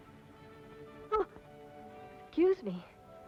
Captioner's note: hiccups